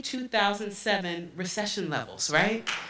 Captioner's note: applause